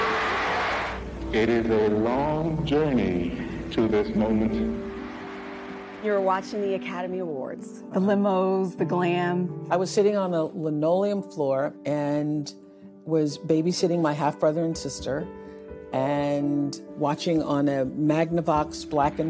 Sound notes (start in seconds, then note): 4.8 cheers and applause